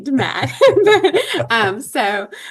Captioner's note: laughter